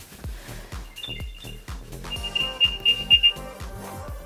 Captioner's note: beeping